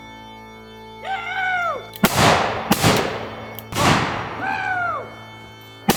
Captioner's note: gun banging